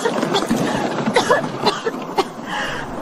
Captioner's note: cough cough cough